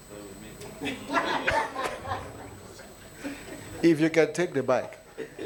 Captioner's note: attendees laughing